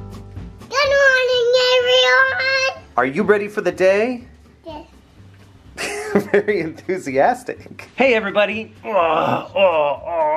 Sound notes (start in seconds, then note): 5.8 laughs